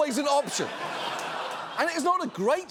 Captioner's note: audience laughing